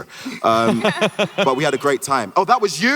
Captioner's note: Hardwick and Ridley chuckle